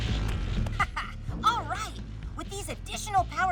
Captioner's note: chuckle